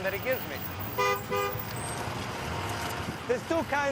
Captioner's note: car horn honks